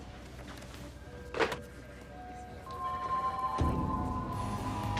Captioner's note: phone ringing